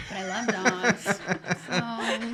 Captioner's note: laughing